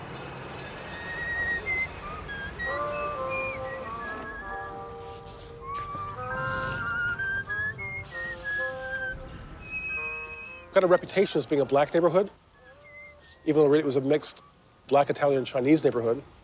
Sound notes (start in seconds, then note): 0.1 railroad crossing signal clanging; 3.1 whistling